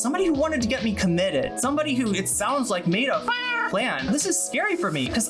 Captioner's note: meow